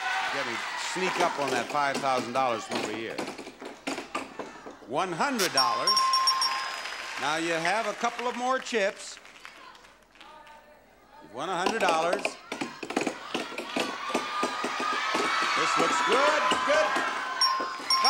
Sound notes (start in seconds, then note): 0.0 audience shouting; 5.4 bell dings repeatedly; 13.1 audience cheering